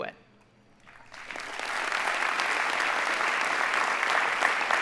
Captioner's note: audience applauding